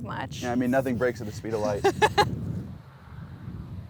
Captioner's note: laughs